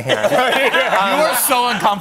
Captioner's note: laughter